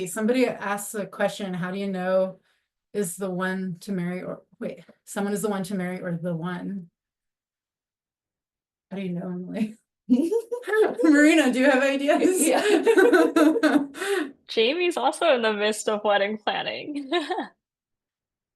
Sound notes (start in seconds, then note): 12.2 laughs; 16.9 laughs